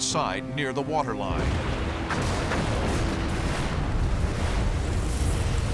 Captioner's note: explosions